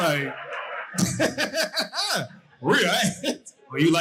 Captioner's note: audience laughing